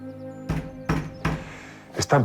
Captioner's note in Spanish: Toques en la puerta